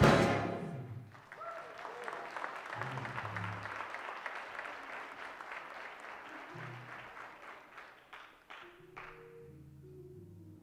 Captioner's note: applause